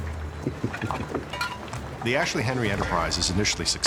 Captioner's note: chuckling